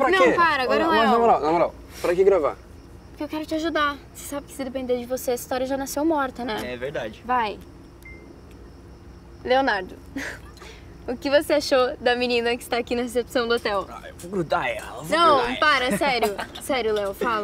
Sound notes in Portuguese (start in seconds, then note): 8.0 bipe da câmera; 10.2 risos